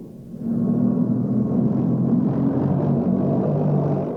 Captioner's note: tank rumbling